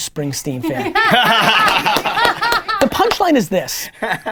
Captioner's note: laughing